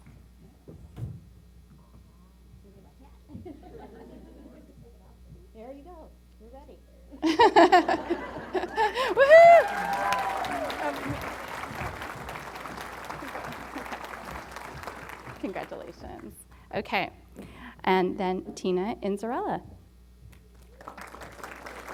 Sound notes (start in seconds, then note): 7.2 laughter; 8.6 applause & Cheering; 20.5 applause